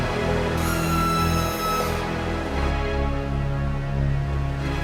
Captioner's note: hydraulics screech